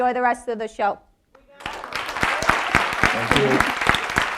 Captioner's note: audience applauding